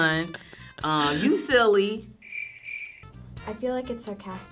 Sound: crickets chirping

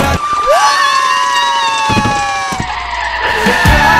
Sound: and grandma shrieking

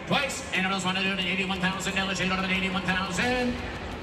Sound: auctioneer chant

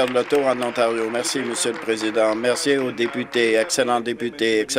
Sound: applause

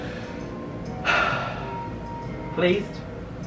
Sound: sighs

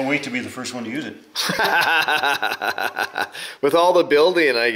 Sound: laughs

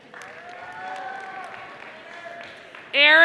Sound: audience applauding

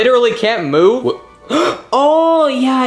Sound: gasping

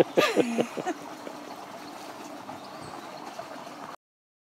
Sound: camera operator laughs; laughs; birds chirping

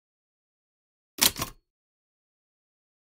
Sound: sound of typewriter

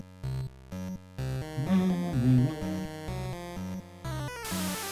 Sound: humming along

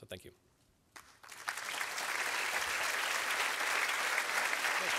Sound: applause

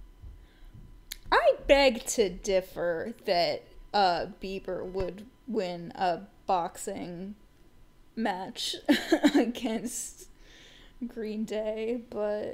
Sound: laughing

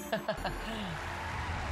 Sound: laughs

